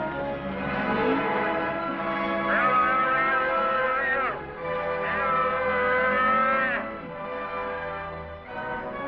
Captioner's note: bell